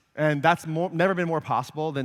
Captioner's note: none